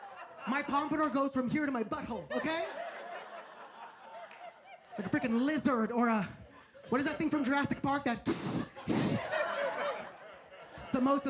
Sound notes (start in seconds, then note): 2.1 audience laughs; 8.4 audience laughs; 8.9 hisses